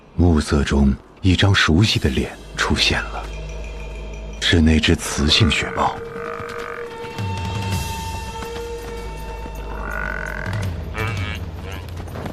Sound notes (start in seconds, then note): 5.0 yak mooing; 8.3 suspenseful music; 10.3 yaks mooing